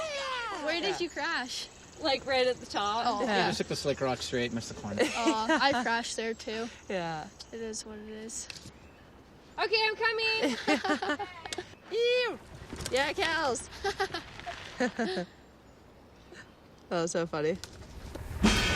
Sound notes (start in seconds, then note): 10.4 laughs; 14.3 laughs